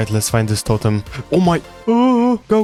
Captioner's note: gasp